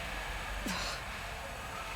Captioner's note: sigh